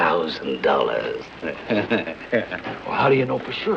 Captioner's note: laughing